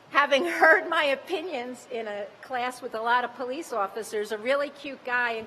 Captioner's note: laughter